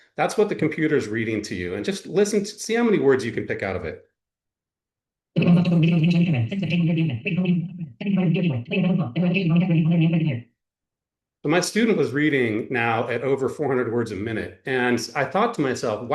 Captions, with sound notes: that's what the computer is reading to you. And just listen -- see how many words you can pick out of it. [ Rapid speech ] My student was reading now at over 400 words a minute, and I thought to myself,